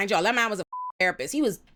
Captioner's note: beep